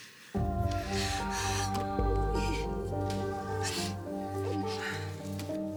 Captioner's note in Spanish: sollozos